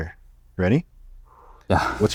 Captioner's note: exhales